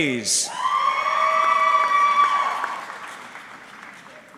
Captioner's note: audience cheering